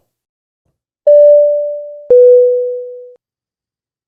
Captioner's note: beep